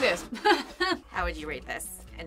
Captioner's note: laughs